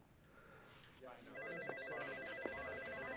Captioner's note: phone ringing